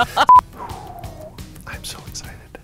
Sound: exhale

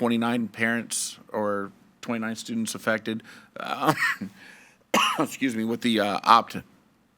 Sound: coughs

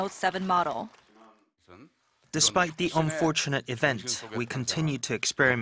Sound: Korean

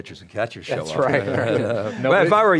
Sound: laughter

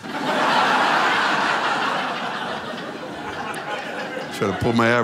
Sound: laughter

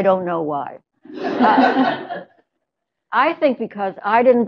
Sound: laughter

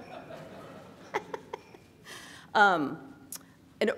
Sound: laughs

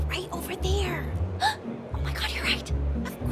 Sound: gasp

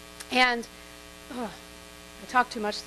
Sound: clears throat

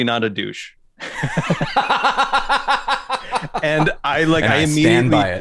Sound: laughs

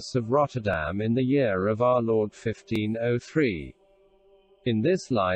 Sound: voice reads

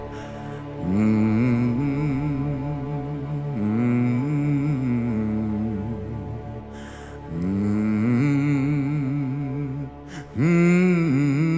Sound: humming

